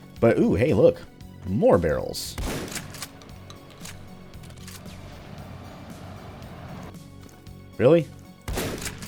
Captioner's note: BOOM, hissing/flaming sound, only some explode